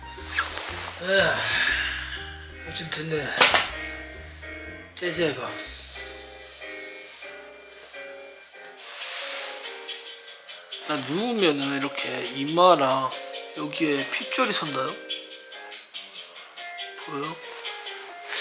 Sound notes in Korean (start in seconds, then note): 3.4 핸드폰 패대기